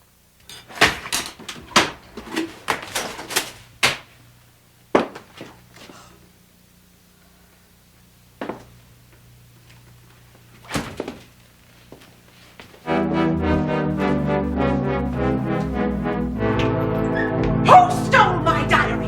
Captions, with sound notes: [Gasps] [Gasps] Who stole my diary?